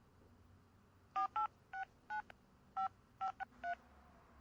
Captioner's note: phone dialing